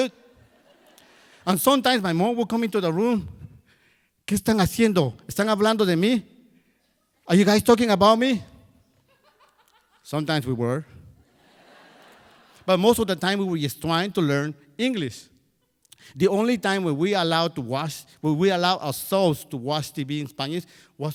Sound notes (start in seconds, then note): 0.3 crowd laughs; 4.3 speaking in Spanish; 11.2 crowd laughs